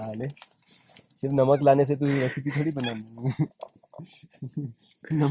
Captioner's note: chuckles